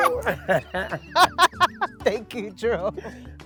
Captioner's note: both laughing